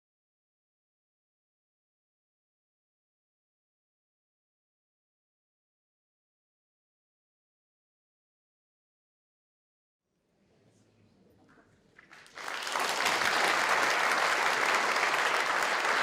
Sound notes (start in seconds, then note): 10.9 muffled chatter; 12.0 audience applauds